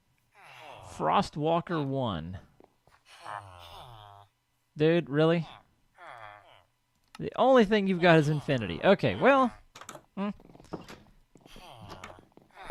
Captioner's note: laughs; chattering continues